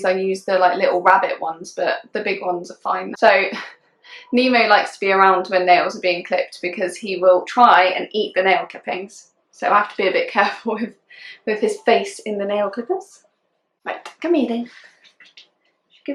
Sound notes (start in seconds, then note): 3.4 laughing